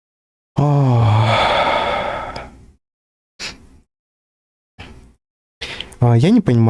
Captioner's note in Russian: вздыхает